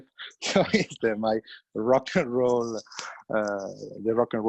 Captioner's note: laughs